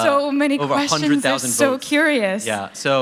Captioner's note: laughter